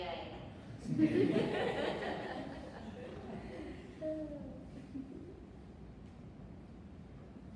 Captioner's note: audience laughs